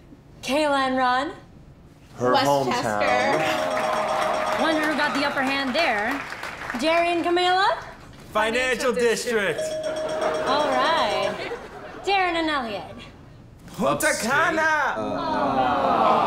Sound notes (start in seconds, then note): 3.1 bell dings; 9.5 bell dings; 15.0 audience groans